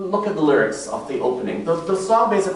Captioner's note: none